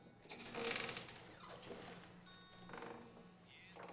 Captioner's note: door opens